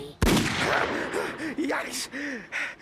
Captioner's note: gasping